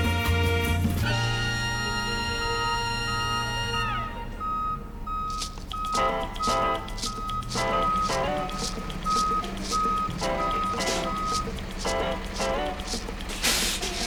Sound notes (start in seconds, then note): 4.6 truck beeping; 5.9 upbeat music